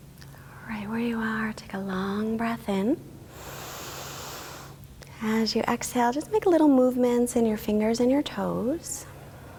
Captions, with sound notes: Right where you are, take a long breath in, (inhaling), as you exhale, just make little movements in your fingers and your toes,